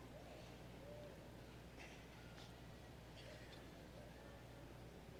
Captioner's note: none